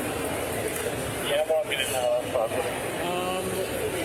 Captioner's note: radio Chatter